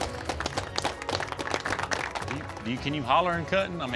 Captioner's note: applause